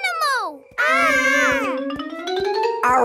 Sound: kids yelling

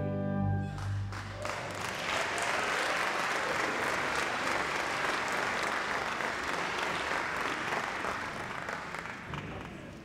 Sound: applause

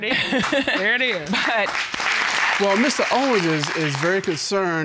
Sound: chuckles

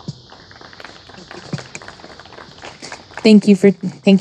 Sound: audience applauding

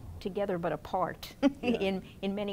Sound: laughing

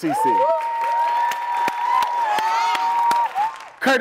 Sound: applause

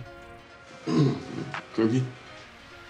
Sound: clears throat

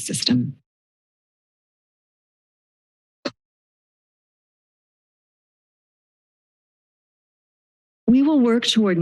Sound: silence

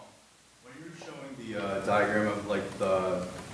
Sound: voiceover

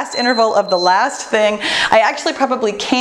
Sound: timer beeps

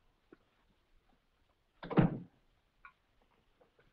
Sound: door thuds shut

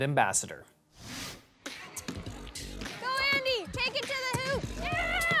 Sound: sounds of a basketball game

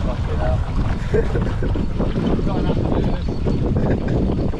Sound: laughs

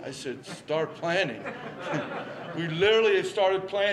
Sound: laughter

